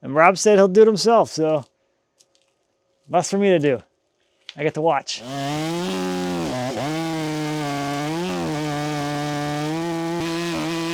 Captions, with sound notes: And Rob said he'll do it himself. So less for me to do. I get to watch. (chainsaw buzzing)